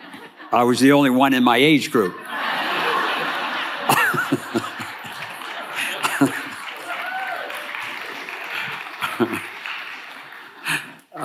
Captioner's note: laughter